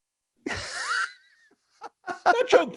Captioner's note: both laughing